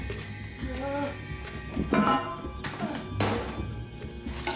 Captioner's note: Homer yells